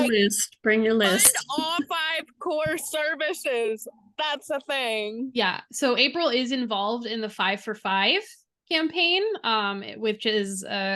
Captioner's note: laughter